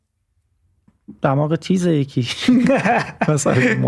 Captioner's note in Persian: خنده